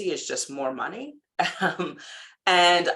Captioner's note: laughing